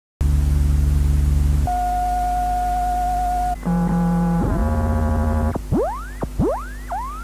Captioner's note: noise and more squeaky noises, then wobbly noises; and then car alarm-like noises